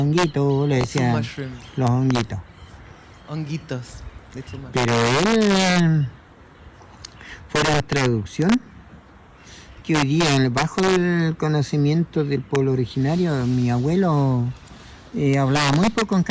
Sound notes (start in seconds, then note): 4.8 non-english speech